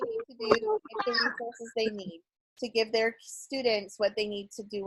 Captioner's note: murmurs